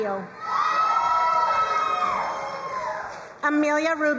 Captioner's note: crowd cheering and applauding